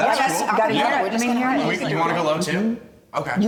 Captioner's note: general conversation